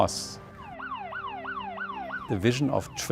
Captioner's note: siren wailing